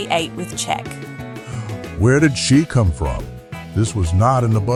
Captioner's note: gasp